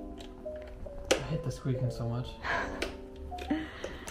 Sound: laughs

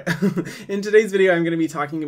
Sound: laughing

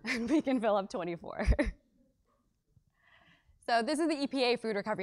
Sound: laugh

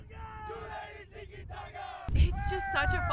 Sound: participants chanting

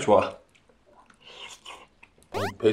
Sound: slirp

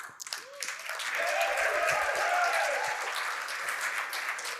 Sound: applause

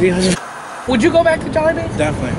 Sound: TV static

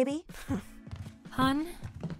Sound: scoffs

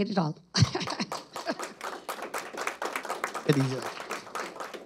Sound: laughs; audience applauds

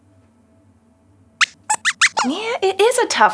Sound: squeaks squeaks

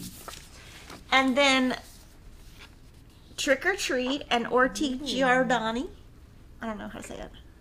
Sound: speaking foreign language

